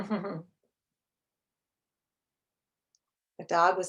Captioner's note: chuckles